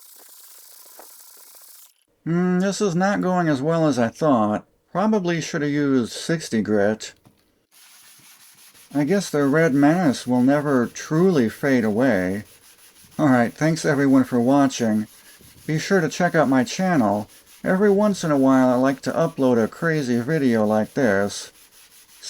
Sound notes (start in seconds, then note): 0.0 furious sanding sounds; 7.6 sanding sounds